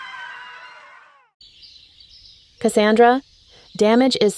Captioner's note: birds chirp